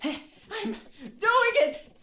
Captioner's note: sound of wheel spinning